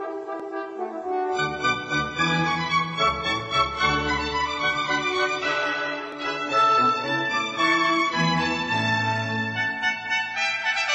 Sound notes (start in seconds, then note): none